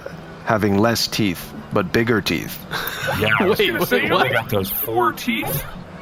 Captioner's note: laughing